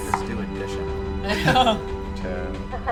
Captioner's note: laughs